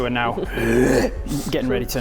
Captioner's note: takes a huff